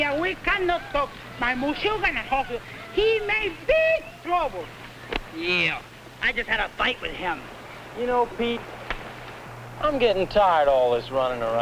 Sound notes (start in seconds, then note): 1.5 speaking spanish